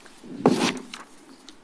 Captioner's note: rustles